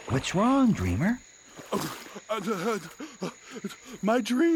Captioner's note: Dream sputtering